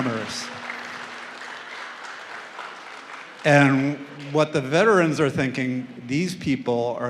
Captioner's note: applause